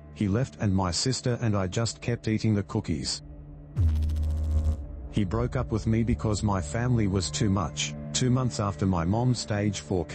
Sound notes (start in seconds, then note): 3.7 electrical noise